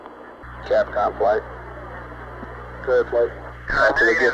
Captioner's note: mission Control Audio